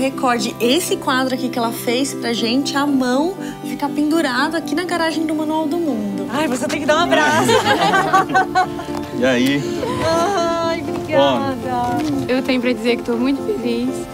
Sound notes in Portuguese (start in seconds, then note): 7.1 risadas